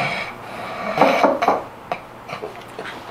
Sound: knock Knock Knock

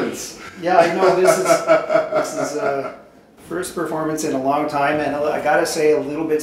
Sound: laughing

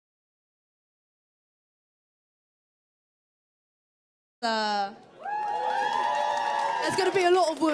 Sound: cheers

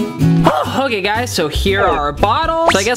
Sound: gasps

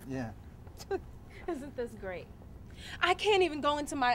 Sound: laughs

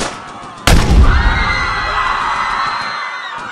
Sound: screams

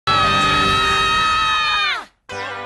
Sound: screams

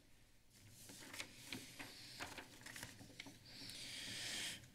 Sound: papers flipping

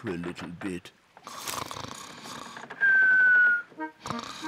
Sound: snores

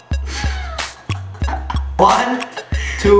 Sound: laughs

